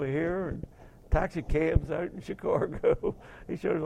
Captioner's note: laughing